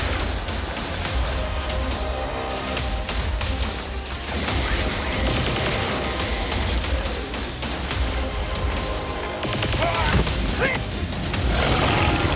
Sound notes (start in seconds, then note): 3.3 energy crackling; 11.4 grunting